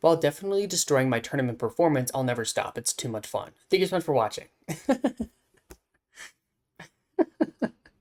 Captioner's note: laughs